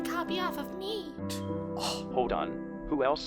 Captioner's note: scoffs